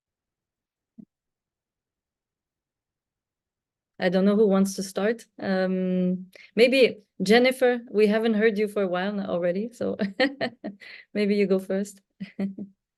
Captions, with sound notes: I don't know who wants to start. Maybe Jennifer, we haven't heard you for a while now already, so (chuckling) maybe you go first?